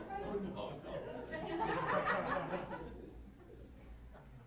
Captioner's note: chatter